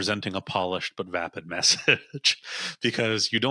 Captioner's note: chuckles